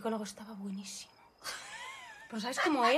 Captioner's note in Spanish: Risas